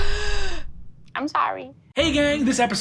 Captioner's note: gasps